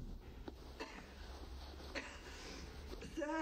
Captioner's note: mom coughing